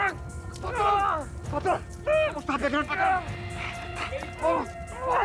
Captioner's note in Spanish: gritos y quejidos